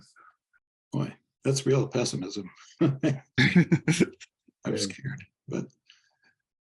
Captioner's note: laugh